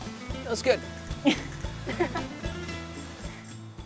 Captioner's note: chuckles; host chuckles; mellow acoustic music